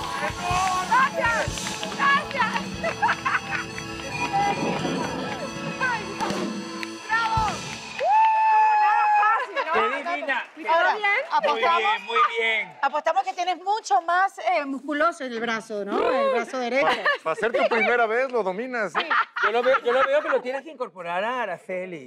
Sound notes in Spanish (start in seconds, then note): 2.3 Ríe